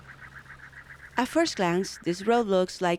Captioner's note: voiceover